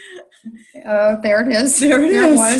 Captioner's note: laughing